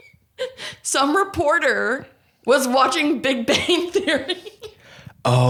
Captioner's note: laughs